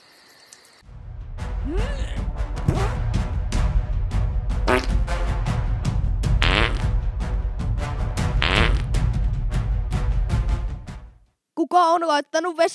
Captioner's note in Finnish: pieruja ja suolistokaasun ääniä